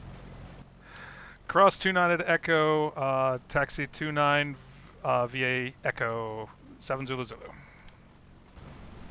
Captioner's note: me on radio